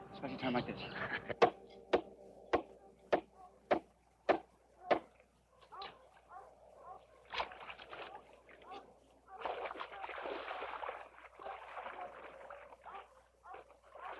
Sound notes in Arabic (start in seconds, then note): 2.1 يضحك; 5.4 نباح الكلاب